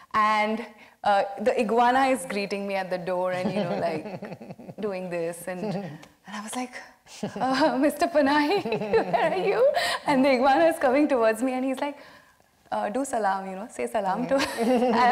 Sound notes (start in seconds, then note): 8.5 laughing